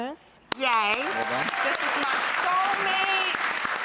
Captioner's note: audience cheering